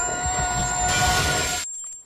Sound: shatter

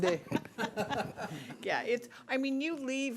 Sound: people laughing

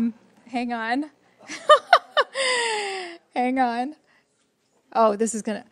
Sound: laughs

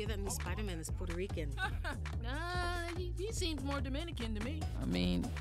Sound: laughs

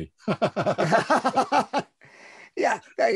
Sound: laughter

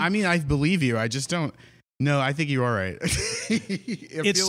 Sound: laughs

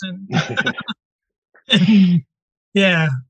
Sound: laughing

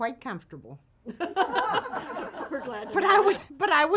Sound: ladies chuckling

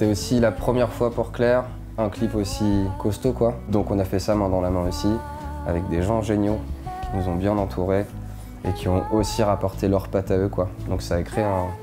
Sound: speaking in french

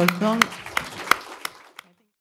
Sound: applause

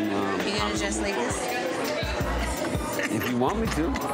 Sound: laughs

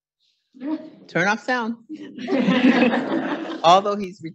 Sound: audience laughing

